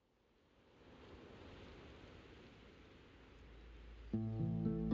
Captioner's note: wind blowing swiftly; soft music